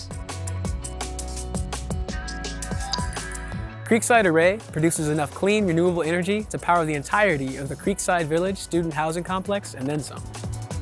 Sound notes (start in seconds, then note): 0.1 upbeat, uplifting music; 2.8 computerized dinging sound